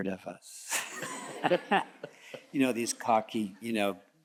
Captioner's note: all chuckles